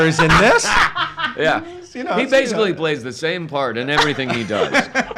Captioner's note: laugsh